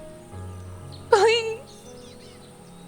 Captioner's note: weeping